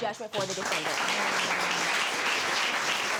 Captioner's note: applause